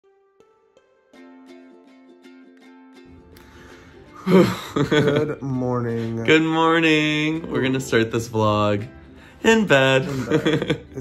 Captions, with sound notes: (soft music) (laughing) - Good morning. - Good morning. We're gonna start this blog in bed (laughs).